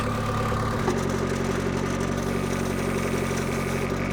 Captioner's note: motor humming